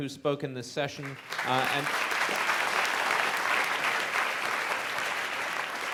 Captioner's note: audience applauding